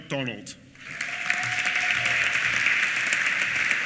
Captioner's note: applause